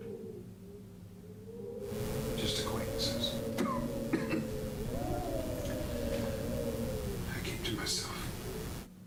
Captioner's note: coughs